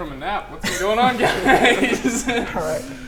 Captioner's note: laughs